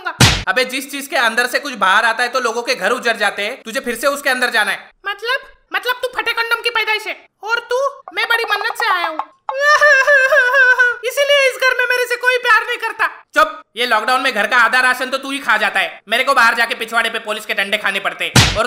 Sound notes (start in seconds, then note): 9.5 crying